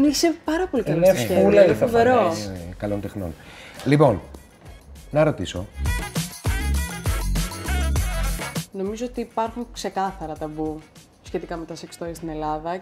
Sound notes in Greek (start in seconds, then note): 3.1 ειρωνικά